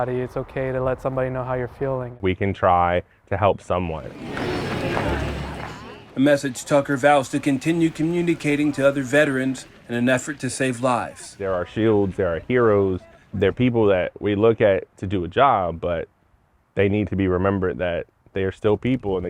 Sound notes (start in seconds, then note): 4.5 people chatter